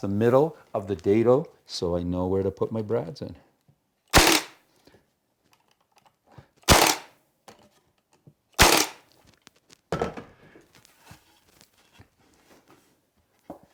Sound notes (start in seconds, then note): 4.1 Sounds of Brad Gun